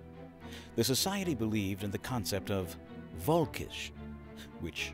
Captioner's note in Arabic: التحدث بالألمانية